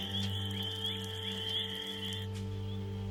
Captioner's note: crickets chirping